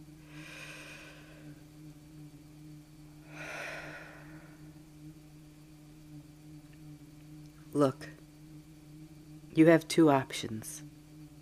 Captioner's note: deep breath